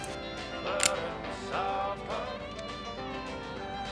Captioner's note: gun clicks; light country music